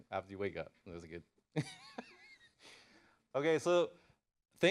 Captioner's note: laughs